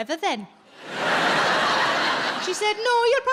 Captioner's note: audience laughs